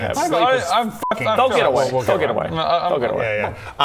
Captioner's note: none